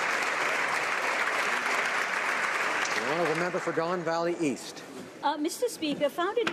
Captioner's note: applause